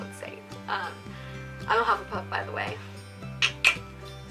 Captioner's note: tongue click